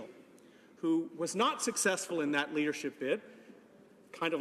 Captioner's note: none